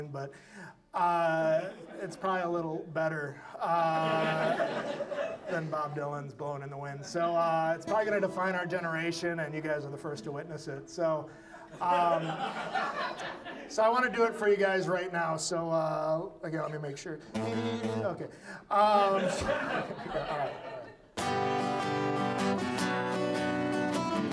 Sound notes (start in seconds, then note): 3.7 audience laughs; 11.5 audience laughs; 17.2 humming badly and playing guitar; 18.8 audience laughs; 19.0 guitar music